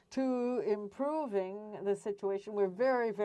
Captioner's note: speaking French